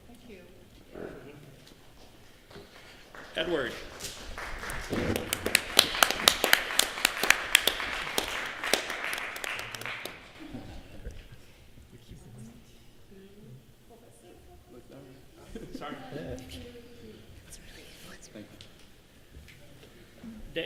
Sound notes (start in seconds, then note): 4.5 applause